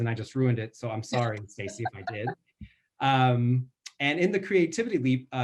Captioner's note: laughs